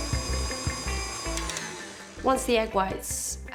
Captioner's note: mixer stops